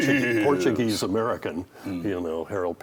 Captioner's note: imitates Gildersleeve